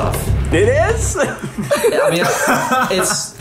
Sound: tense music; group laughs

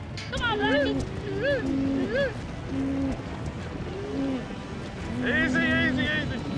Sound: hoof beats; shouting, hoof beats

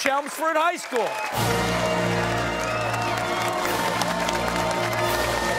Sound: cheers and applause

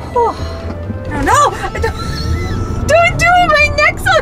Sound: woman yelling and laughing

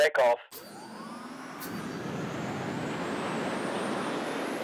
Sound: rocket roaring

